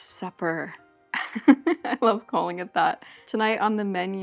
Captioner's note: chuckles